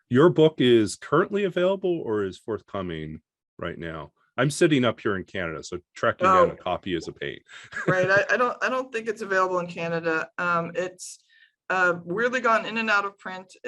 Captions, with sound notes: Your book is currently available, or is forthcoming right now? I'm sitting up here in Canada, so tracking down a copy is a pain. (laughs) - Right, I don't think it's available in Canada. It's weirdly gone in and out of print.